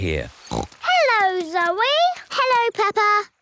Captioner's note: snorts